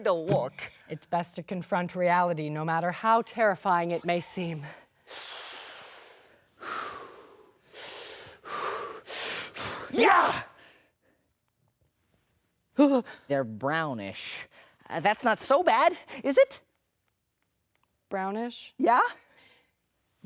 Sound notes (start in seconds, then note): 7.2 breathes; 10.5 breathes